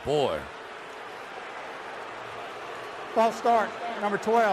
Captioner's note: booing